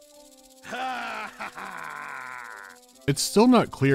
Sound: malevolent laughter is heard in the distance

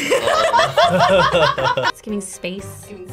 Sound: ladies laughing

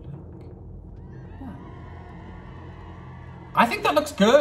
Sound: audience cheering

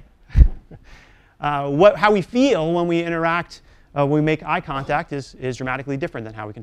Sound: laugh

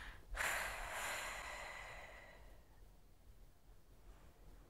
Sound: exhales

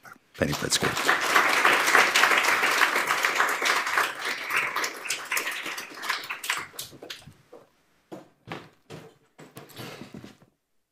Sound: applause

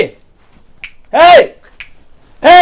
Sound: snap

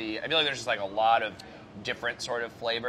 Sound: none

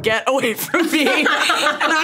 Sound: both laughing

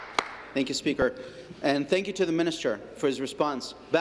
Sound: applause

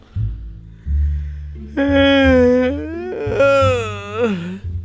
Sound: yawning

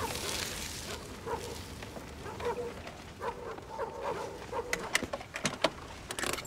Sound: dogs barking

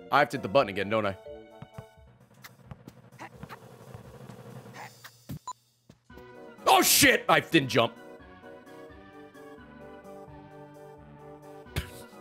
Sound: laughs

